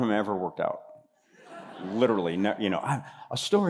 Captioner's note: laughter